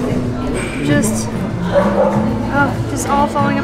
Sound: dog barks

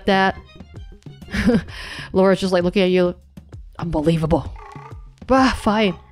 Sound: chuckles

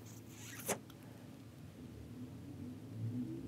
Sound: sucks loudly

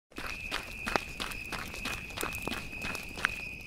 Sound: step sounds

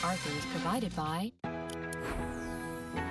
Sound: mouse clicks

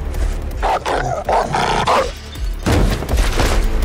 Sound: dog snarling

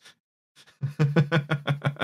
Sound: chuckles

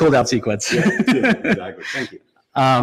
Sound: both laughing

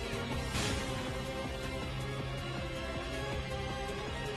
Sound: smack!

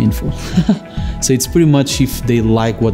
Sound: chuckles

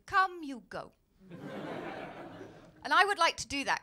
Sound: laughter

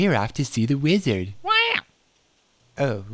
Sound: squawk

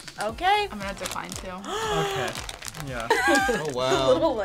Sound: React gasps

